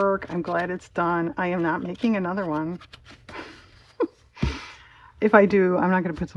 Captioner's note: laughs